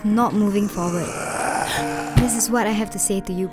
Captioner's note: gasp